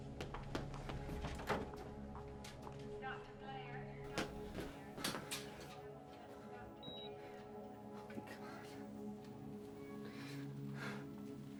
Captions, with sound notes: (footsteps pattering) (door clatters open) Dr. Blair, Dr. Blair- (footsteps approaching) (machine beeps) - Oh, my god!